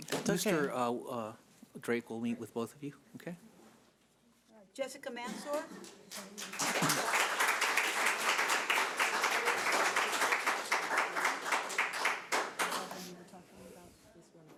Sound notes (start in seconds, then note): 5.8 audience applauds